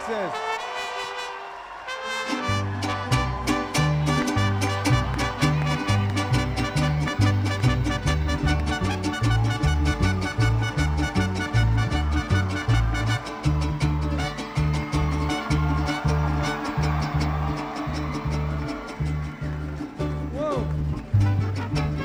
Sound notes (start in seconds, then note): 0.3 mariachi music; 10.5 cheering